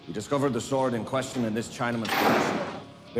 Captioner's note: bangs